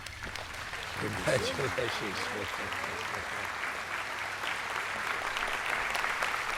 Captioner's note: applause